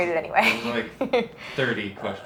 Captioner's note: laughs